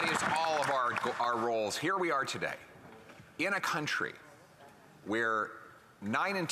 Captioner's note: some Applause